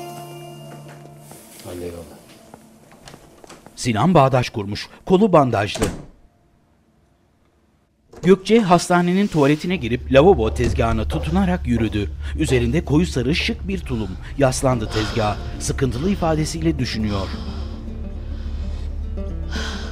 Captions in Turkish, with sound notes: Hadi eyvallah. (Kapı kapanma sesi) (Nefes sesleri)